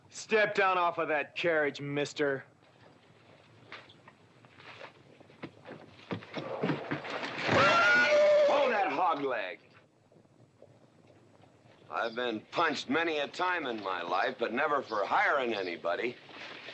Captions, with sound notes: - Step down off of that carriage, mister. (scuffling) (horse neighing loudly) - Hold that hogleg! I've been punched many a time in my life but never for hiring anybody.